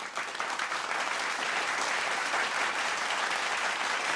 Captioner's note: audience applause